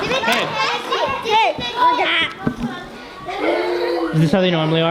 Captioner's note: kids In Unison; kids chattering